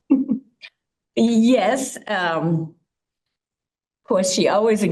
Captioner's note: chuckles